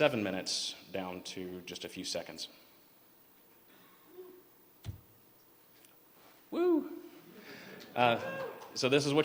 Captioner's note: cheers